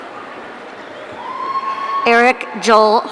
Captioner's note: audience cheering